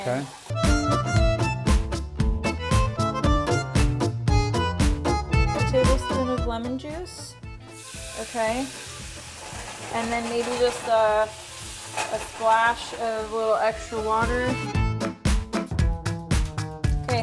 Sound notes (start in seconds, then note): 1.1 upbeat Italian music; 7.8 sizzling; 15.2 upbeat Italian music